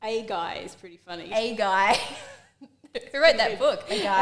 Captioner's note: laughs